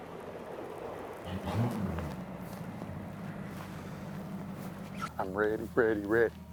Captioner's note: motor rumbling